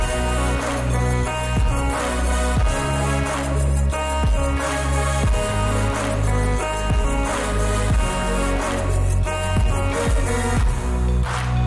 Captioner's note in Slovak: Potlesk